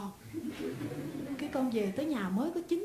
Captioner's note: audience laughs